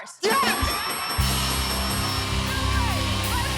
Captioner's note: cheers and applause